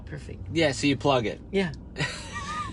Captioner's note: laughs